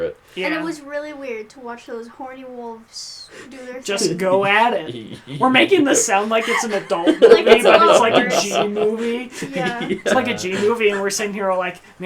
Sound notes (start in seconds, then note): 9.1 laughs